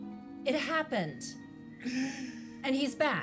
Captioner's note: Mitch laughs